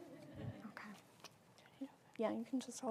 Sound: laugh

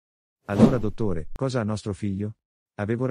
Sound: FX - Whoosh - 03

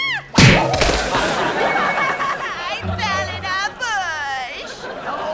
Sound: crying

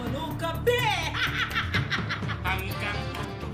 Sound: Diday laughing

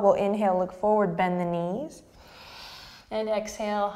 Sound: deep breath

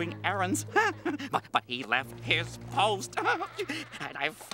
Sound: chuckles; chuckles

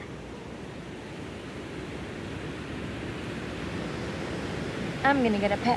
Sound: waves sounds

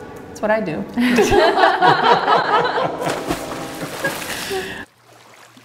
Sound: all laughing; water splashing

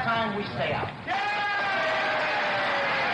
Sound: cheering

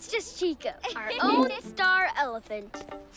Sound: laughs

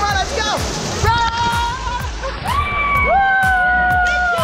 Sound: yelling; cheering

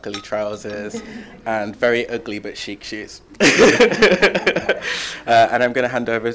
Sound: laughs

